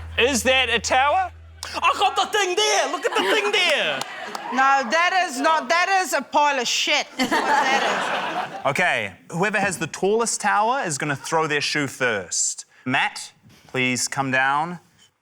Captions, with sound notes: - Is that a tower? - I got the thing there! Look at the thing there! - No, that is not― That is a pile of shit is what that is. (LAUGHTER) - OK, whoever has the tallest tower is gonna throw their shoe first. Matt, please come down.